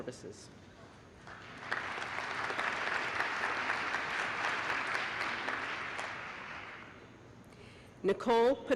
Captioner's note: applause